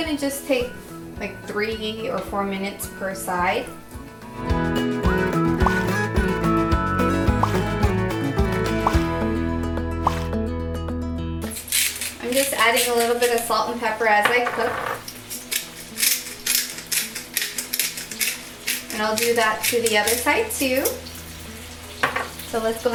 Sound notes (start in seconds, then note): 5.3 bright music; 14.8 spices cracking